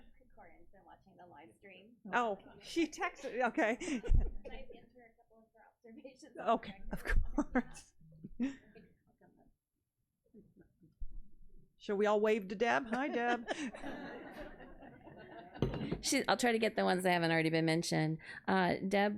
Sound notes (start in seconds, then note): 10.0 laughs; 12.9 audience laughs